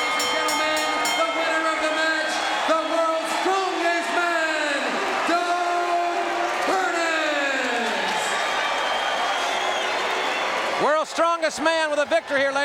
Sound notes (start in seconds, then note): 0.0 bell ringing; 8.0 audience cheering